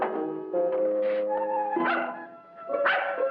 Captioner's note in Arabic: نباح الكلب